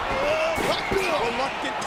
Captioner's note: Jericho grunts